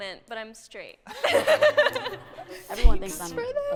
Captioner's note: laughter